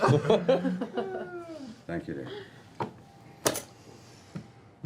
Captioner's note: sighs